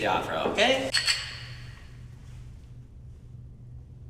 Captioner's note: glasses clink